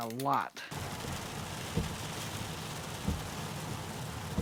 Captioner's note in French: bruit de la pluie frappant le pare-brise, essuie-glace